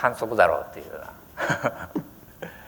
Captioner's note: laughter